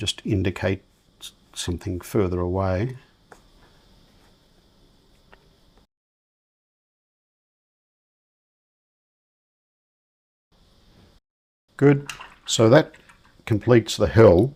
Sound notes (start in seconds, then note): 4.5 silence